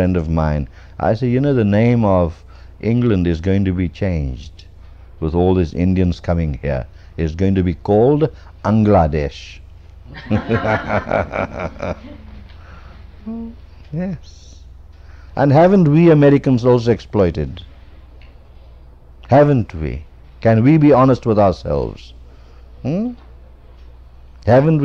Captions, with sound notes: of mine, I say, "You know, the name of England is going to be changed with all these Indians coming here, it's going to be called Engladesh." [LAUGHTER] Yes. And haven't we Americans also exploited? Haven't we? Can we be honest with ourselves? Haven't